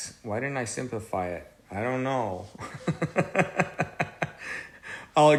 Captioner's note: laughs